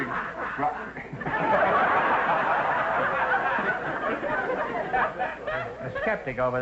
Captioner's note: louder audience laughter; audience laughter